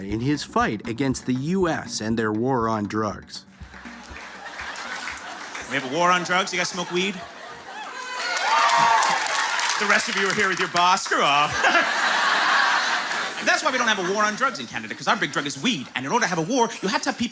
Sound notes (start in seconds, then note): 3.9 laughter and applause; 7.8 cheering and applause; 11.4 chuckles nervously